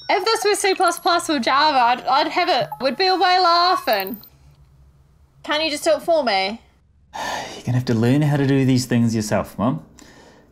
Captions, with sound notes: - If this was C++ with Java, I'd have it, we'd be away laughing. Can you just do it for me? (breathes out loudly) - You're gonna have to learn how to do these things yourself, mum.